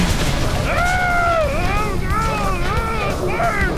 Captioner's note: screaming